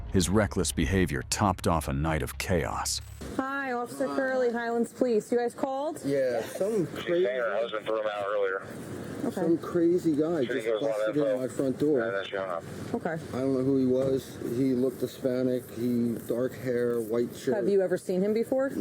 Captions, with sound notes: His reckless behavior topped off a night of chaos Hi, Officer Curley, Highlands Police You guys called? Yeah, some crazy (Radio chatter), him out earlier some crazy guy, Okay just busted in my front door Okay I don't know who he was He looked Hispanic He... dark hair, white shirt Have you ever seen him before?